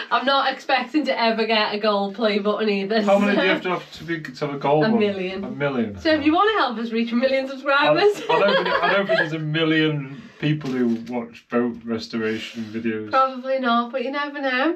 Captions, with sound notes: I'm not expecting to ever get a gold play button either. How many do you have to have to be, to have a gold one? A million. A million. So if you want to help us reach a million subscribers. (laughing) I know because a million people who watch boat restoration videos. Probably not, but you never know.